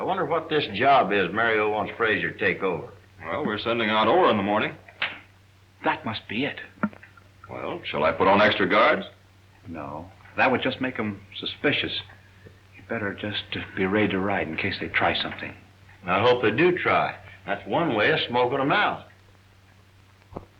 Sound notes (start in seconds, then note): 5.0 snaps fingers